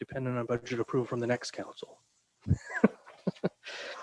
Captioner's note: laughs